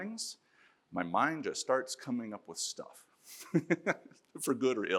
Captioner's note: laughs